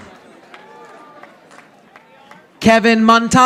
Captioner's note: audience applauding